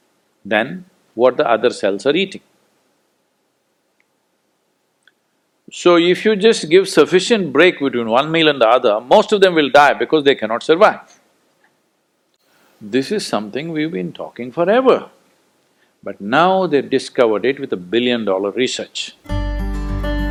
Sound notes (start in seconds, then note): none